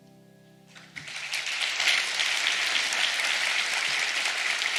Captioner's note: audience applauds